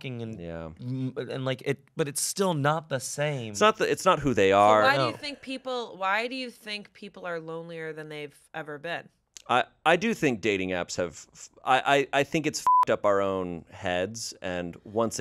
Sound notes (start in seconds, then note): 12.6 beep